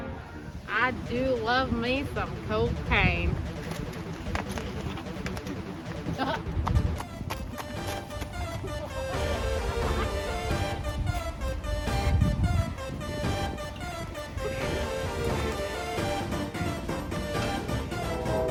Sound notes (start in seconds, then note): 6.3 literally almost 15 seconds of high giggling